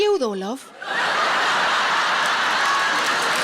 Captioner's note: audience laughing